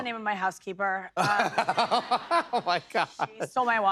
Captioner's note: laughter